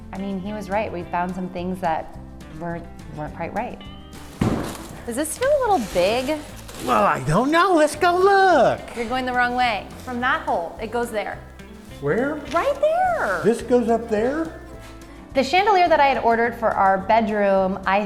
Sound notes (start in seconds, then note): 4.5 chandelier thuds